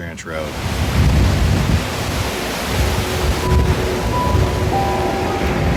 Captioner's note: fire flames crackling